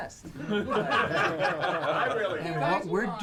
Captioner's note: all laughing